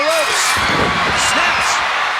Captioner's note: audience cheering